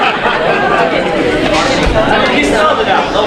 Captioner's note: audience laughing; audience murmuring